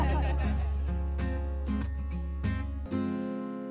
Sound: laughter

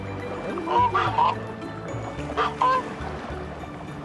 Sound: goose honking

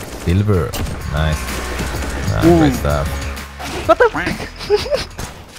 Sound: snickers

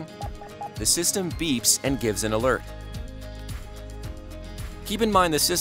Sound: electronic beeps

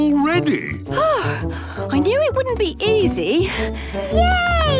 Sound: panting

